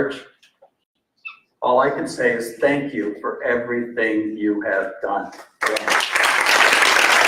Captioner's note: applause